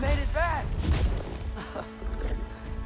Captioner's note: laugh